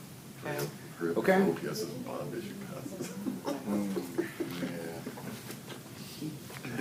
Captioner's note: laughing